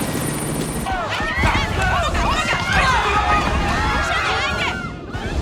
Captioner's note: yelling